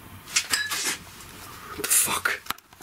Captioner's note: glass clanging